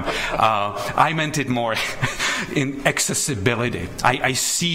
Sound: board members chuckle; chuckles

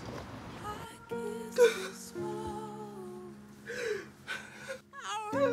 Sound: sobs

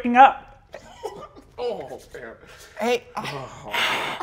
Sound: laughs nervously

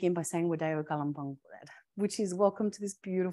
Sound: speaking in Gadigal

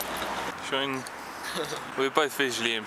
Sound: little tom laughter

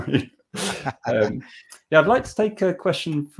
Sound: laughing

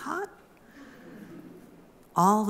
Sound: muffled laughter from crowd

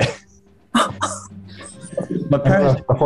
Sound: giggling

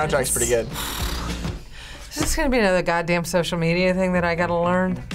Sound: sighs

